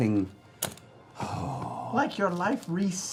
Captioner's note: sighs